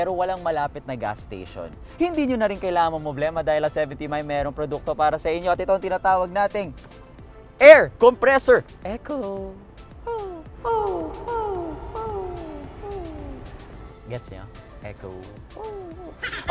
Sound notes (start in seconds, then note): 10.6 echoes